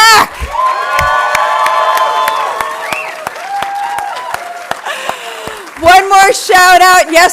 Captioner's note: audience cheering and applauding